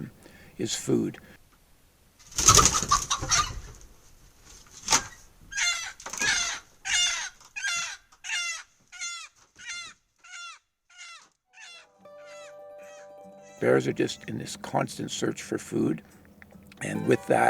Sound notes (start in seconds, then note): 11.6 chickens squawk and peep